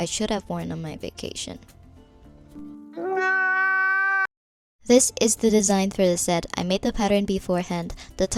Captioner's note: mu-mu – crying sound effect